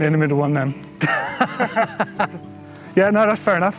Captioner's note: laughs